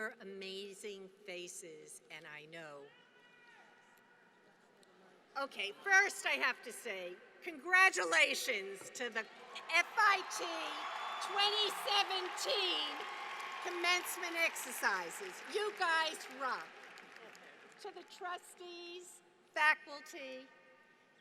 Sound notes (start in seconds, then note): 9.2 applause